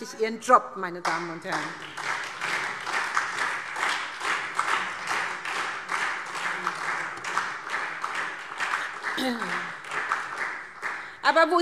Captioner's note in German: Beifall SPD und Freie Demokraten